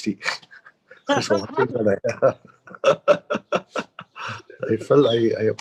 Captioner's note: laughs